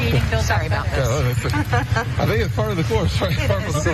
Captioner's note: laugh